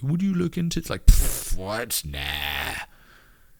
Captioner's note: blows raspberry